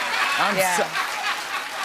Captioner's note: cheers and applause; laughs